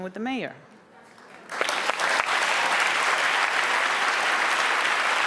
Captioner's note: audience applauds